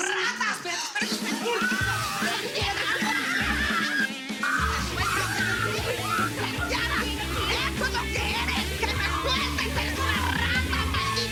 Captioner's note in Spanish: Gritos y exclamaciones